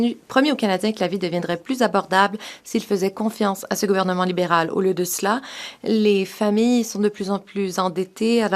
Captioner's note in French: voix de l'interprète